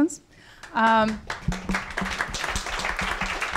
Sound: applause

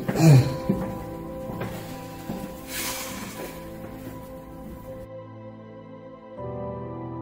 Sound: footsteps

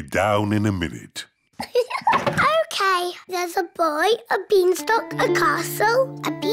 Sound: laughs

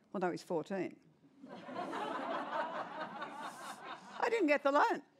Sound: laughter

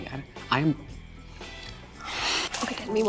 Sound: sighs

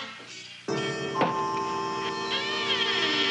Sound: knocking; creaking; foreboding music

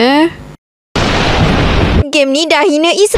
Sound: thunder sound

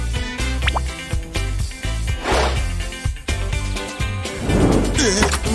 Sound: moaning

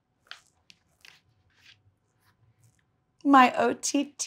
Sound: book page turning

